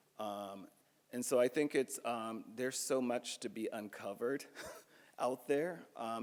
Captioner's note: chuckles